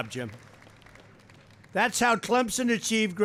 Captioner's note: applause